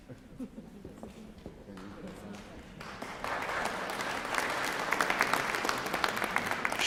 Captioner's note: applause